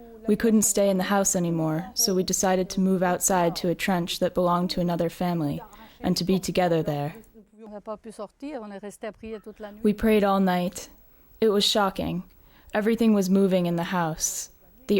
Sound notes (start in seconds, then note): 7.6 speaking in foreign language